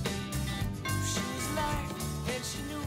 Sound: doorbell rings

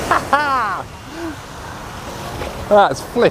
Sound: laughs

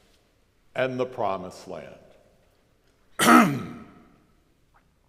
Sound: coughs

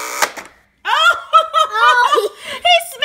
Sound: laughs

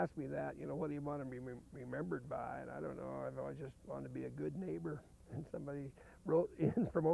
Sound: chuckling

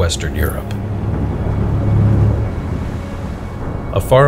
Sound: explosions echoing

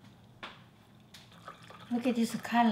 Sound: water gurgling

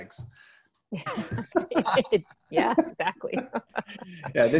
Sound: laughter

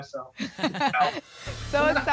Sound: laugh

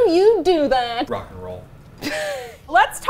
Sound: laughing

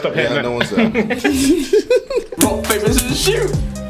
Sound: laughing

